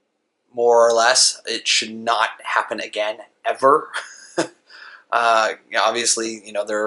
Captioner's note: laughs